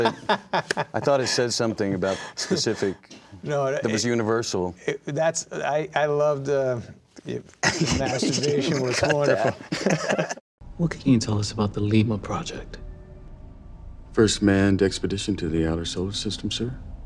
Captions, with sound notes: it said something about the specific, that was universal. - I loved that, the masturbation was wonderful. - (laughing) Cut that! - What can you tell us about the Lima Project? - First manned expedition to the outer solar system, sir?